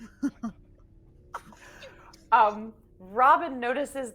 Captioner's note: chuckles